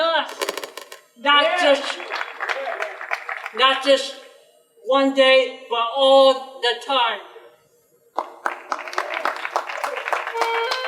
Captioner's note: audience applause; clarinet music